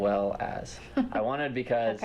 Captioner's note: laughter